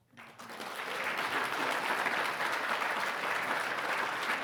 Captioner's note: audience clapping